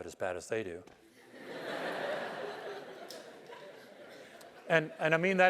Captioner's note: laugh